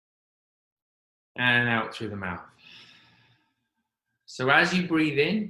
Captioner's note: exhaling